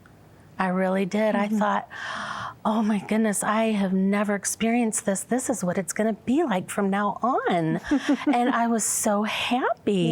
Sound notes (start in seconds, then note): 7.8 giggling